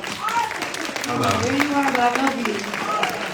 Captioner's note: audience applauds